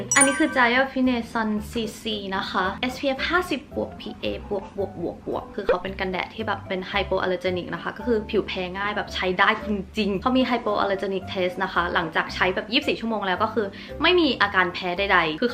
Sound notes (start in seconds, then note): none